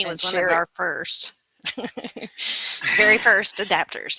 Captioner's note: laughter